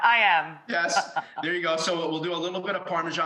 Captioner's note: laughs